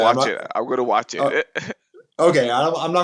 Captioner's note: chuckles